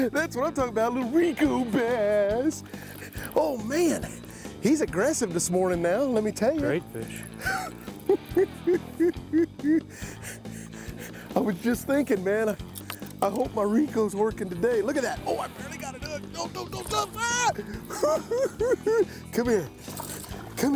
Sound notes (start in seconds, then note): 7.2 laughs; 16.4 chuckles